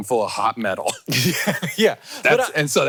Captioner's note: laughs